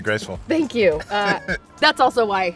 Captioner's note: Malcolm laughs